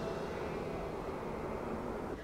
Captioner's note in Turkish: Rüzgâr esiyor